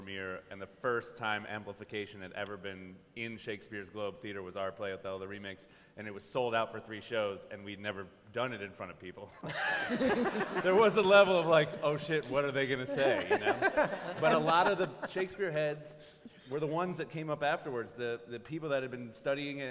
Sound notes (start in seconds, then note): 9.4 laughter